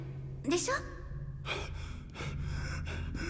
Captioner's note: hyperventilating